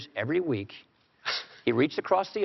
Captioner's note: Biden chuckles